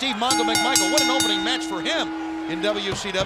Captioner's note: bell ringing